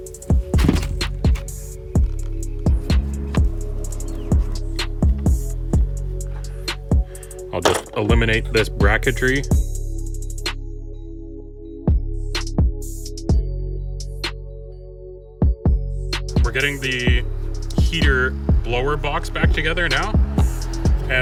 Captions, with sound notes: (plastic cracking) I'll just eliminate this bracektry. (slow techno music) We're getting the heater blower box back together now,